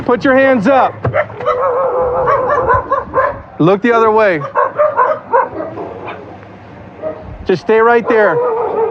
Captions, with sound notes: t [dogbarking] Lo [ds barking] Just stay ght there.